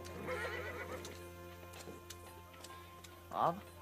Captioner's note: horse Neighs